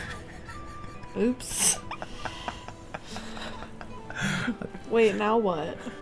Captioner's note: laughing